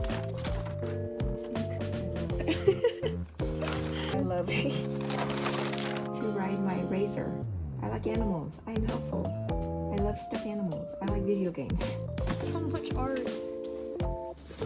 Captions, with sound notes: Look, ‘I love u’ ‘I love u’ *laughing* I like to ride my Razor. I like animals. I am helpful. I love stuffed animals. I like video games. So much art.